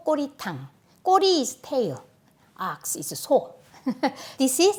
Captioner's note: laughs